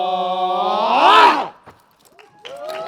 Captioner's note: applause